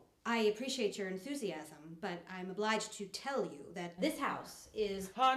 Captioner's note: none